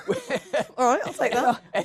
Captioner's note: laughs